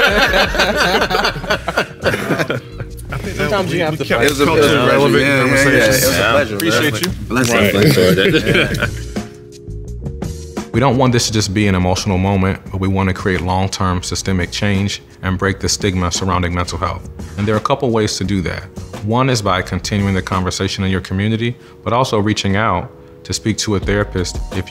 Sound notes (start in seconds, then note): 0.0 laughing; 3.1 chatter